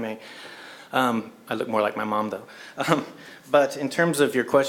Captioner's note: laugh